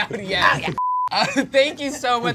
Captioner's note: beep